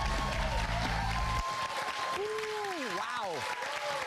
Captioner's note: cheers and applause